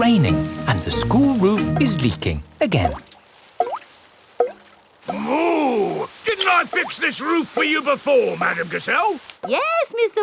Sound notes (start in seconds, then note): 4.1 water dripping